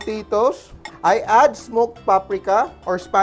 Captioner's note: clang